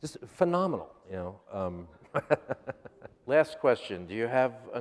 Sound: laughs

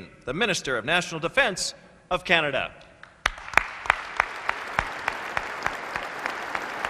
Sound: applause

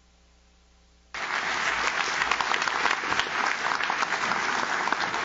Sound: audience claps

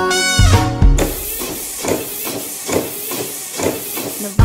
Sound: wipers swishing

